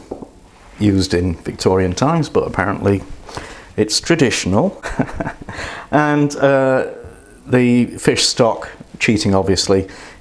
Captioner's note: laughs